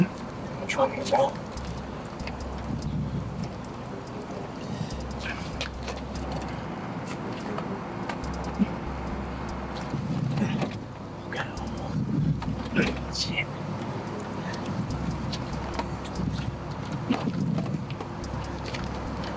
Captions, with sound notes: - I'm tryin' this out. (suspenseful music) (Malik grunts) Shit.